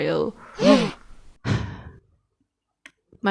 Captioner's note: gasp; sigh